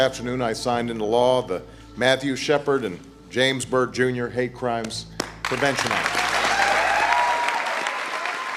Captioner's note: applause